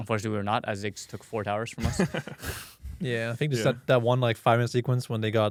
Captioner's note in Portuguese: risos